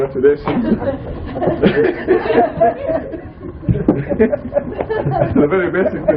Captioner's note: laughter